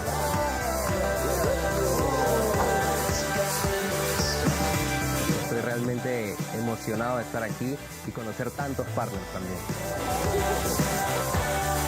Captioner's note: speaking spanish